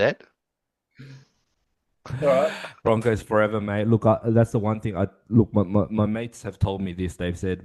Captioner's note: laughs